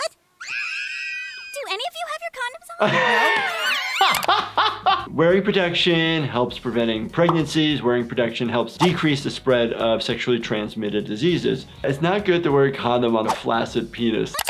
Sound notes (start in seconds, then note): 0.4 girls scream; 2.7 laughs; 2.8 more girl screams